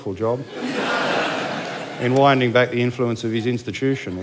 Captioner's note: laughter